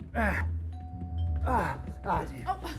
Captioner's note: grunting; doorbell ringing